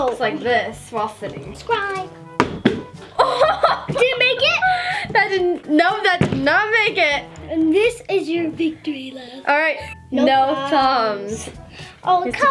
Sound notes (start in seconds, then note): 2.3 bottle landing; 3.1 laughing